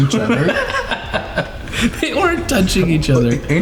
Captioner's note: everyone laughing